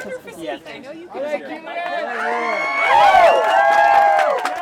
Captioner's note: cheering